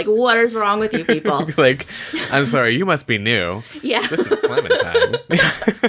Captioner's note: laughs